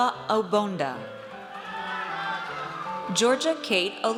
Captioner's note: audience cheers